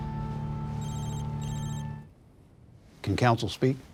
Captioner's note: phone ringing